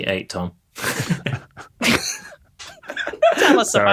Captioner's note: scattered snickering